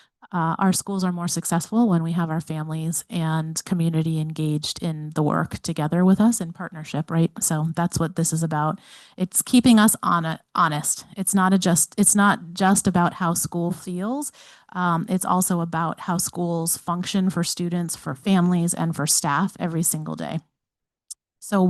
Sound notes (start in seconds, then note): none